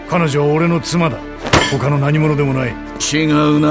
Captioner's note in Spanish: Jack golpea la mesa